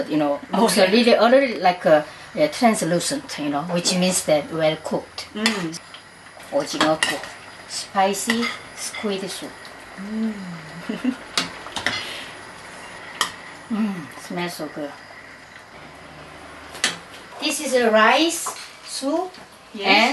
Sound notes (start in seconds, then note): 10.0 giggles